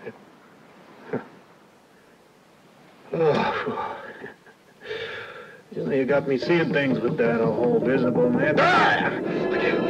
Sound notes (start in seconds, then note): 3.1 breathes out sigh of relief; 9.6 dramatic music